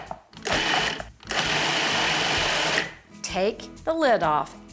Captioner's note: blender rumbling